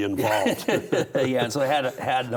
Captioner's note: both laugh